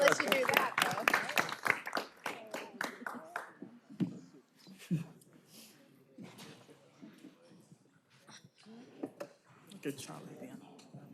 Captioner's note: cheers and applause